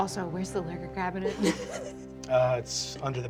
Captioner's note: laughter